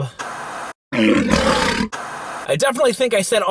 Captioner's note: lion roaring